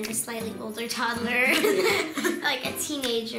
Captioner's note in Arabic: يضحك